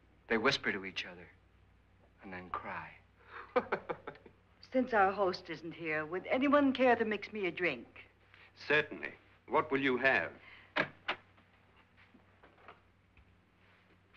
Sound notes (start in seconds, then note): 3.3 Lance laughs; 10.7 door opens